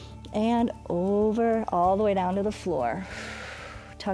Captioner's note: inhales; exhales